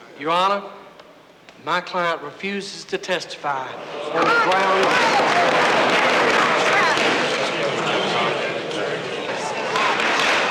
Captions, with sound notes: - Your Honor, my client refuses to testify on the grounds... (crowd shouting)